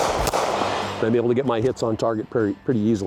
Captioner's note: gun shots